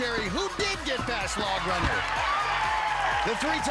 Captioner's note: screams